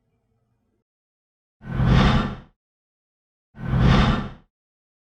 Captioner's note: whoosh